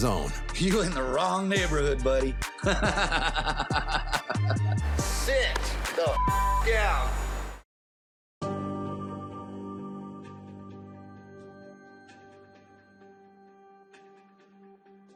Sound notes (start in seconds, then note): 2.6 laughs